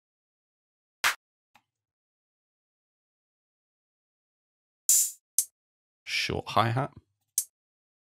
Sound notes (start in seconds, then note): 1.0 clap